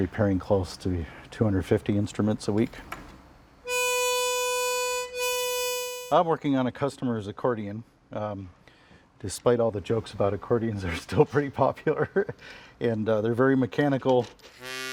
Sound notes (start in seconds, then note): 3.6 accordion music; 11.8 chuckles